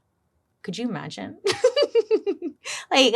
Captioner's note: laughs